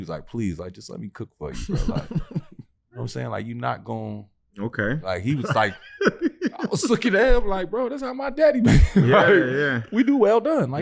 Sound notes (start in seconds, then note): 5.4 laughing; 8.7 chuckles